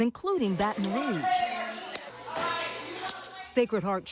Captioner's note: people chattering; tokens clattering